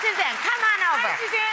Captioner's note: applauding